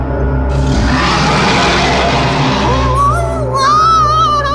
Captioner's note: horrible roar